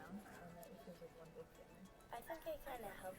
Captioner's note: speaking softly